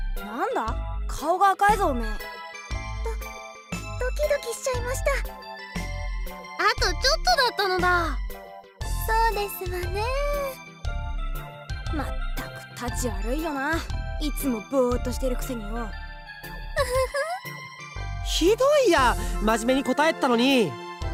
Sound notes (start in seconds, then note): 16.7 giggle